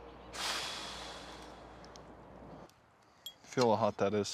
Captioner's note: man sighs